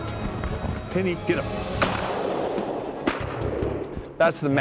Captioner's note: gun shots